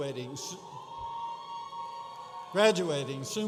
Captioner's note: audience cheering